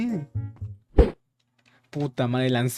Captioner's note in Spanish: sonido de ojo de ender lanzado